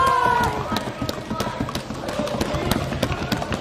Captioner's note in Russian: аплодисменты, крики